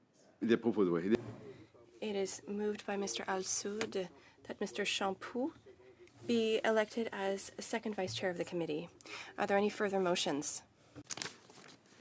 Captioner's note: speaking French